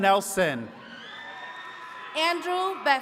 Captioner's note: attendees cheering